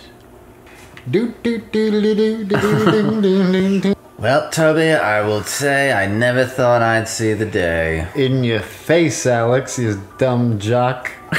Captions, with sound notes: [happy humming] well Toby I will say I never thought I'd see the day in your face Alex you dumb jock